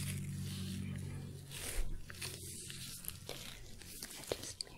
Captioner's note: sticky sounds